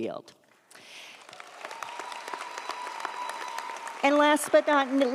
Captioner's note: audience applauds; audience cheers